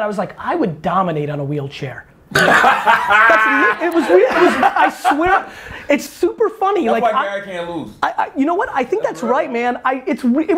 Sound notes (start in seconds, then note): 2.3 Cha laughs